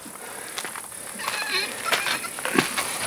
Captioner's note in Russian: звуки усилия